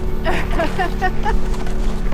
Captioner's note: laughs